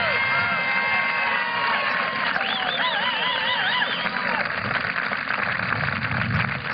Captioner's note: applause